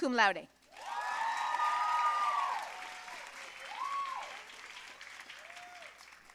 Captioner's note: audience cheering and applauding